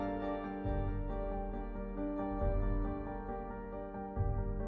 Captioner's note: none